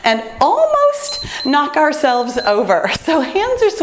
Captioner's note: timer beeps